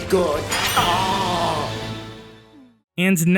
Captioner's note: robot moan?????